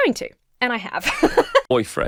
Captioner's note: laughs